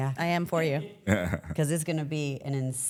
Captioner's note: laughs